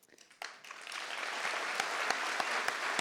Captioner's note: applause